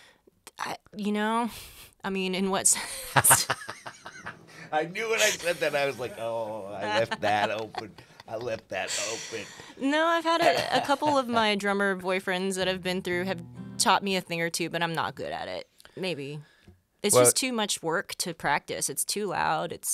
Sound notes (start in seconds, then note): 2.8 both laughs